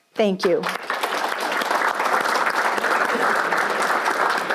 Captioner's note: audience applauds